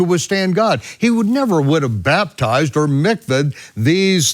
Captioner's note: speaks in foreign language